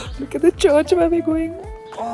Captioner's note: gasps